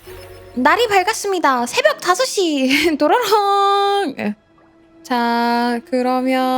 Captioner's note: ting-ting